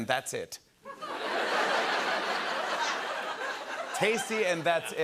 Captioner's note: laughter